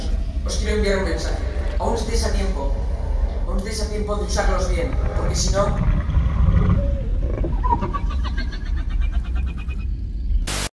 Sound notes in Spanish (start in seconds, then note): 6.6 risas demogorgon